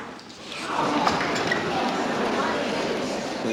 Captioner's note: chattering